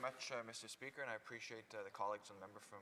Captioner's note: speaking French